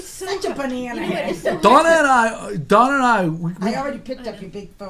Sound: voiceover

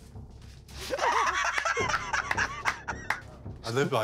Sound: laughter

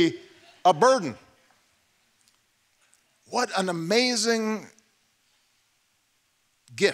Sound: laughter

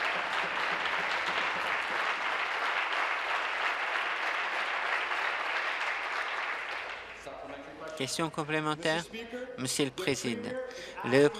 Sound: applause

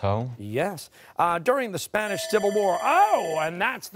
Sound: bell rings

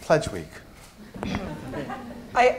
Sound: laughter

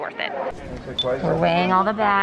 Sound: machine beeping

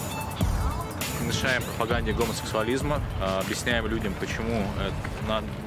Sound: speaking in foreign language

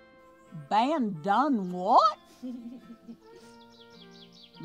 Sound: chimpanzee laughs

